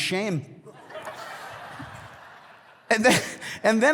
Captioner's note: congregation laughs